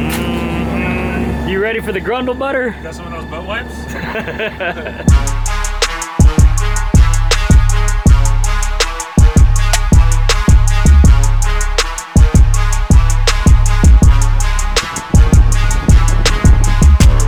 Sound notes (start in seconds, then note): 3.9 laughter; 12.4 wind blowing